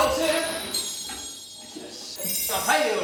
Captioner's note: sparkle